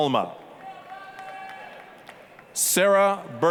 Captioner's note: applause, cheering